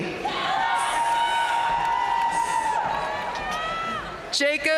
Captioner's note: audience cheering and applauding